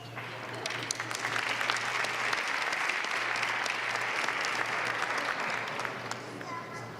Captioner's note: applause